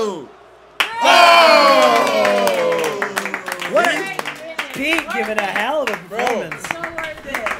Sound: applause

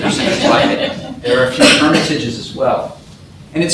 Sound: laughter

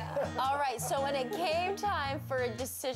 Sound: laughing

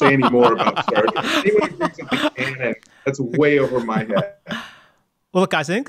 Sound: laughter

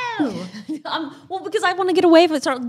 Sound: laughs

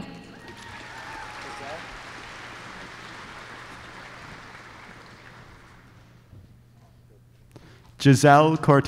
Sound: applause

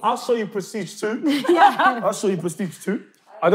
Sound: laughing

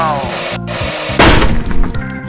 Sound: door smashes open

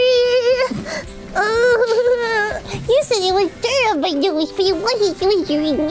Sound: mumbles in baby voice

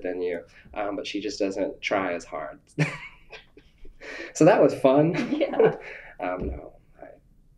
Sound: laughter

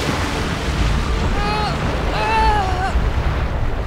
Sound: moaning

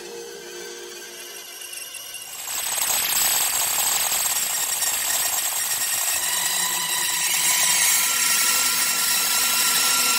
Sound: sounds like thousands of insect robots; the granulated voice getting extremely dense and high

